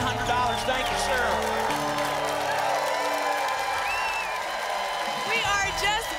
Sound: applause

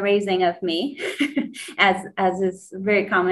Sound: laughs

